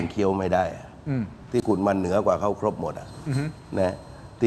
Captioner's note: clears throat